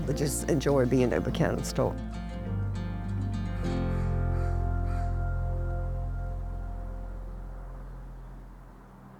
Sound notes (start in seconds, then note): 2.4 gentle music continues; 3.7 birds cawing